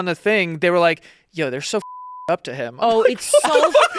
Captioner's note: beep